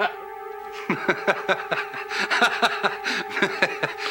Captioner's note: laughing